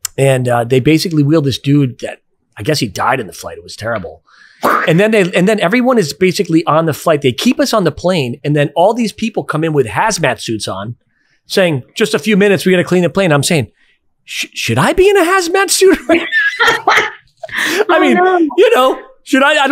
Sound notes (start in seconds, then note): 16.0 everyone laughs